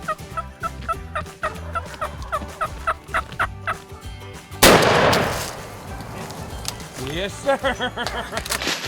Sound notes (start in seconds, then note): 1.8 turkey gobbles; 4.6 gun fires